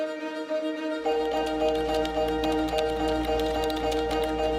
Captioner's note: keys clicking